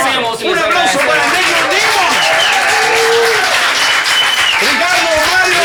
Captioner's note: cheers and applause